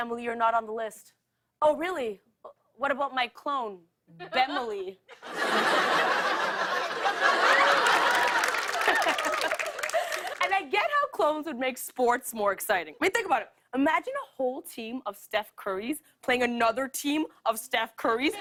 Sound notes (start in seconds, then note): 4.2 laughter; 6.8 laughs